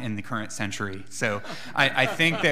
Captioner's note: laughing